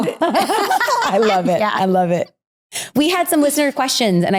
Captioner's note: both laughing